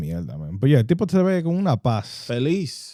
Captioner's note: speaking In Foreign Language